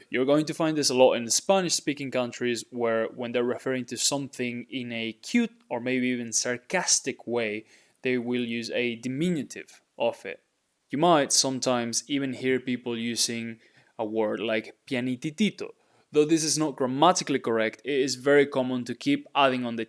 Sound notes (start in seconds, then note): 14.7 speaking in Spanish